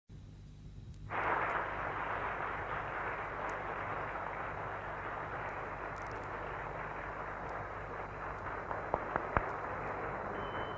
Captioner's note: applause